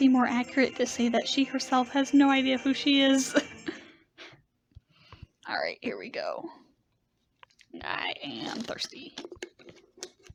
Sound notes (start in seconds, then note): 3.6 laughs